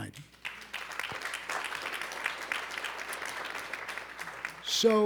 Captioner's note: audience applauding